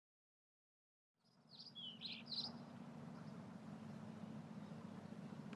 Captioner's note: birds chirping